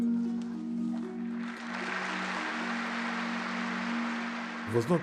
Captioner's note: applause